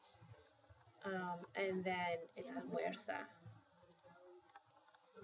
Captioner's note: spanish